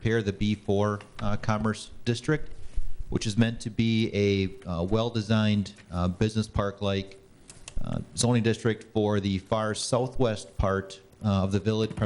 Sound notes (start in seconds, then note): none